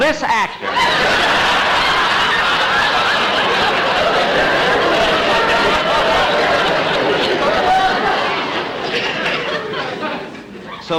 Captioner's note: audience Howling